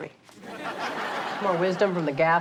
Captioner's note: audience laughs